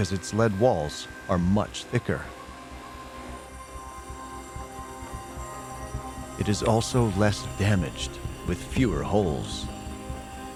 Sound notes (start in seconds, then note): 3.3 grinding